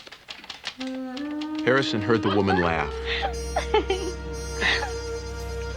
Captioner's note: woman laughing